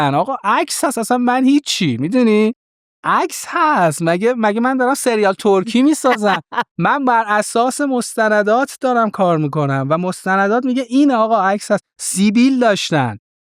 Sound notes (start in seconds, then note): 5.6 laughs